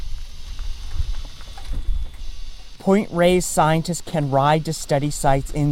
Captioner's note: electric car sounds